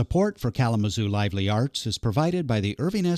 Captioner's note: voiceover